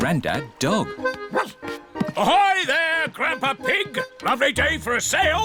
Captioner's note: barks